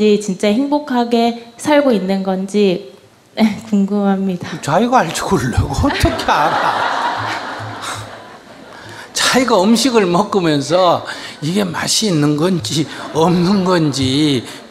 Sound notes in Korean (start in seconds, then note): 5.0 스님 / 청중 / 질문자 웃음; 13.6 청중 웃음